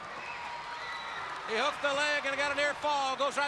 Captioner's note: crowd chatter